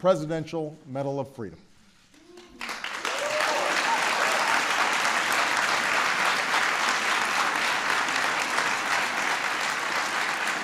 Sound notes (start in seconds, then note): 2.7 applause